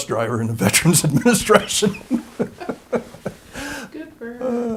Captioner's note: laughter